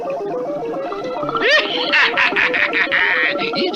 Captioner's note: Simon Bar Sinister Laughs